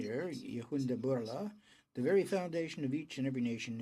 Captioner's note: speaking in french